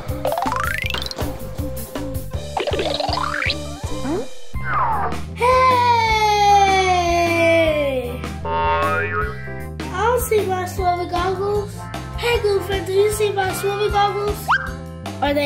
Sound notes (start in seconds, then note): 0.2 comical symphony; 8.4 boing sound effect